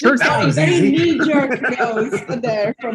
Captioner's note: laughs